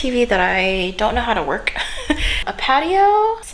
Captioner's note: chuckles